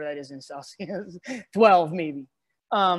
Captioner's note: laughs